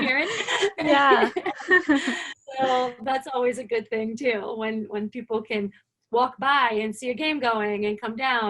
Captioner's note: laughter